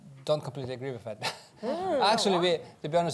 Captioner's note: laughs